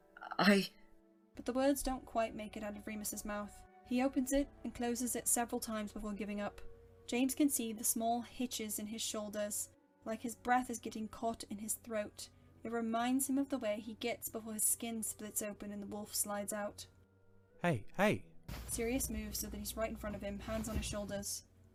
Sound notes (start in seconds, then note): none